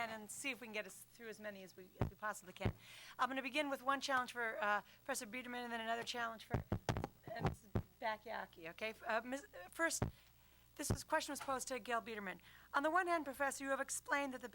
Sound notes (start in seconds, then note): 6.5 mic drops off